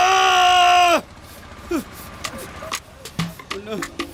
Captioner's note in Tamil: அலறுதல்